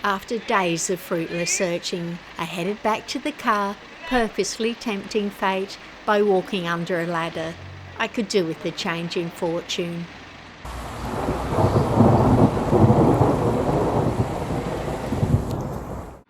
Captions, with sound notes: After days of fruitless searching, I headed back to the car, purposely tempting fate by walking under a ladder. I could do with a change in fortune. (Thunder noise)